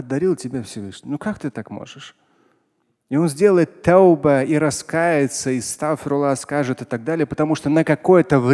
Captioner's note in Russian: говорит на арабском